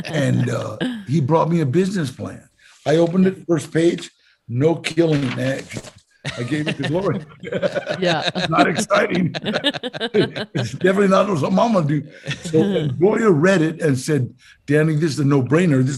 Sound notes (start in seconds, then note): 7.7 laugh; 9.6 all laughing